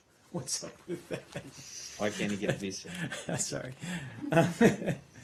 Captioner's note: laughter